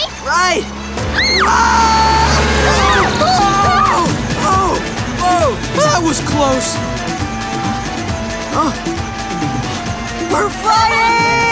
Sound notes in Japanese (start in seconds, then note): 1.7 車のクラクション